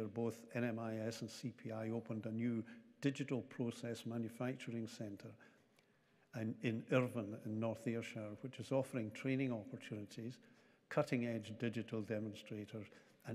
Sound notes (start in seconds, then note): none